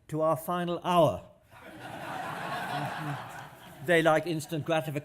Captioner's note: laughter